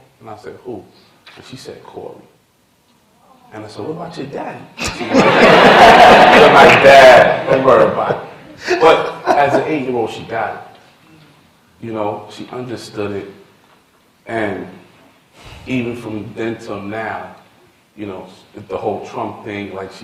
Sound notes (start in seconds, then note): 4.8 laughter